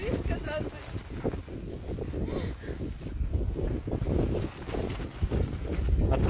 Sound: laugh and stormy wind

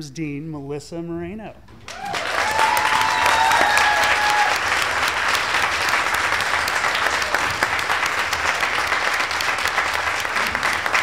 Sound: applause

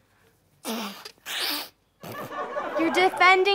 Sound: sniffles loudly

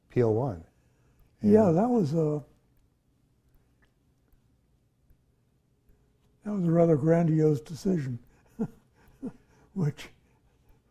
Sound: laughs

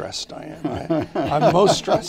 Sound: laughter

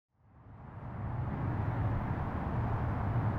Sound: traffic

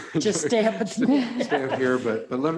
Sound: laughs

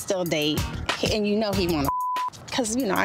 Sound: beep

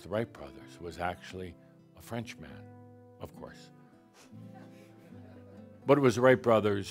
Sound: a few giggles

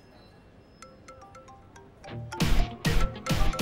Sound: phone ringing

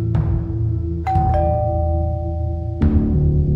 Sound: doorbell

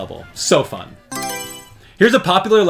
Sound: Mario Selection Sound

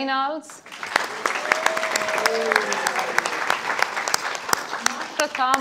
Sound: audience applauding; audience cheering

